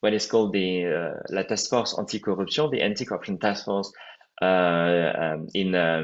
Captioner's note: french